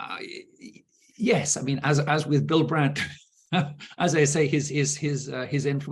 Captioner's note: chuckling